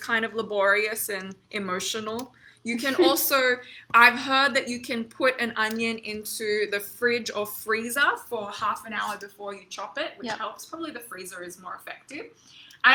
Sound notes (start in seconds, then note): 2.9 chuckles